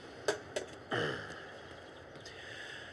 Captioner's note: clears throat